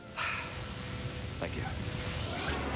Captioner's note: sighs